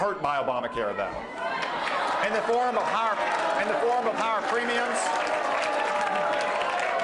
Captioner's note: cheering